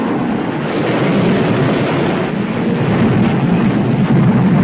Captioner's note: guns firing